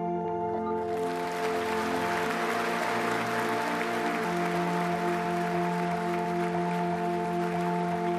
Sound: clapping

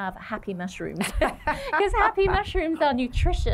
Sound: laughter

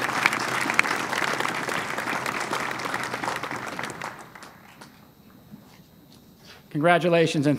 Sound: applause

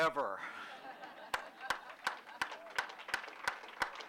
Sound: laughter and applause

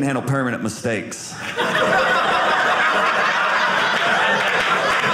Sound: audience laughing; audience clapping

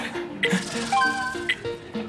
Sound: bell dings

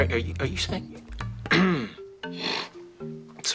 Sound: clears throat, snorts

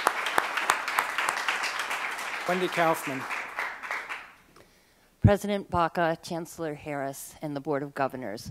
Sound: applause

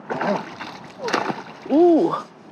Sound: water splash

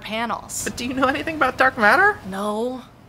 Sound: nervous

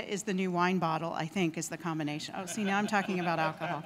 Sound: laughing

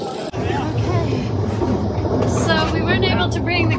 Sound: thunder rumbling

